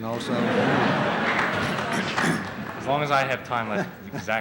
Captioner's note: laughter